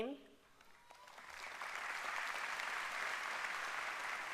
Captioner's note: applause